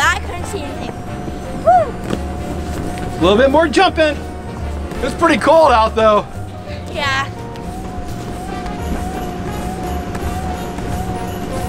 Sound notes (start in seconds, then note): 7.4 feet stomps